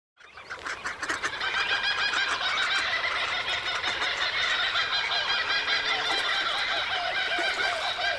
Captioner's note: Straw-necked Ibis sound